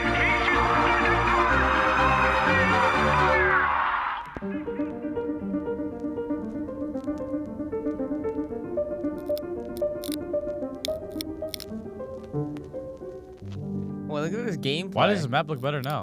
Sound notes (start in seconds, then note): 2.7 cheering